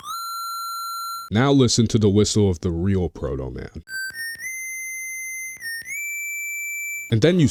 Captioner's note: real Proto Man whistle